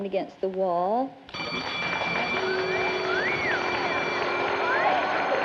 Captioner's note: bell